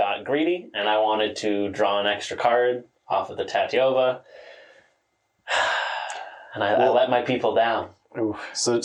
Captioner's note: sigh